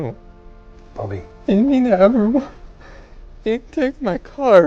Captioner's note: Bobby crying